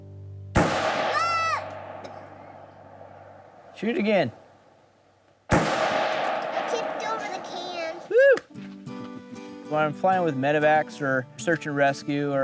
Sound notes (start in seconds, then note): 0.5 gunshot blasting; 2.0 coughs; 5.5 gunshot blasting; 8.3 hands slapping